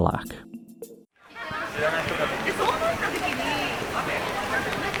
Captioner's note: street audio